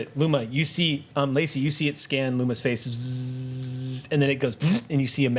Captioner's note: buzzes